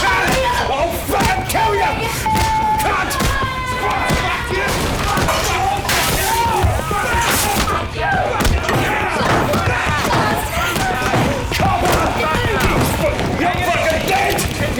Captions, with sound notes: I'll fucking kill you! CUNT! [Everyone is shouting] Copper! You're fucking dead!